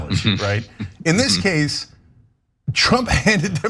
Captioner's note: laugh